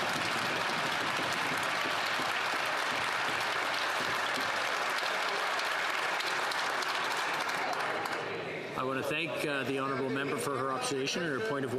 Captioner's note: some Applause